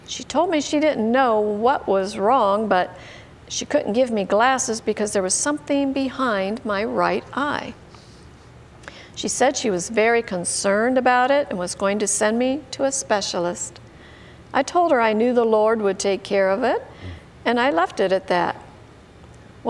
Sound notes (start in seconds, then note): none